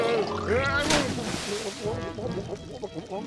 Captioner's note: gargling